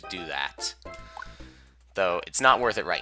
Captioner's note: inhaling